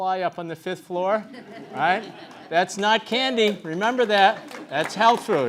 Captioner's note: laugh